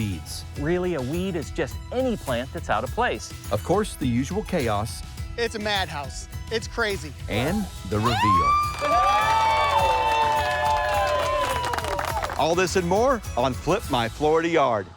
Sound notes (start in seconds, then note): 8.0 cheering